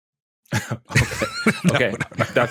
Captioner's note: laughter